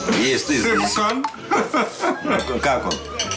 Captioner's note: chuckles